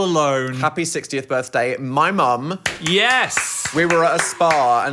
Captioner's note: clapping